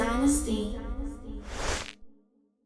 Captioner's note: static